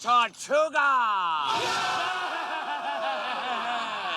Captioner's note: men shouting